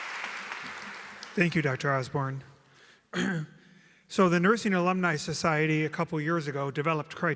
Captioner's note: clears throat